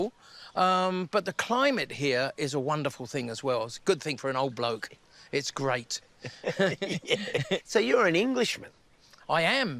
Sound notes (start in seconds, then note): 6.2 both laugh